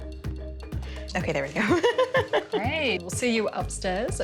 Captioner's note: laughs